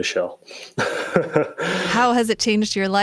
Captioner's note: chuckles